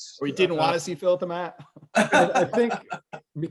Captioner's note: Phil laughs